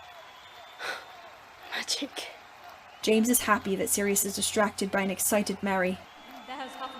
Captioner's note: gasps